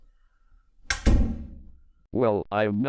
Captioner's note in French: la porte se ferme